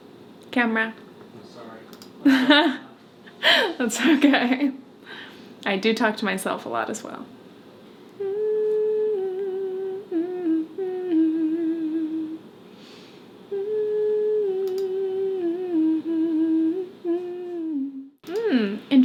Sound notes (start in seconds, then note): 2.3 laughs; 13.4 hums